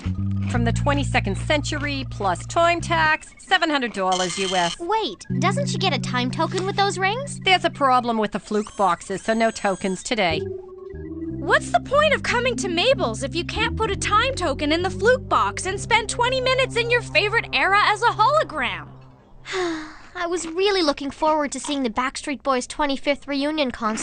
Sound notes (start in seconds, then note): 19.4 sigh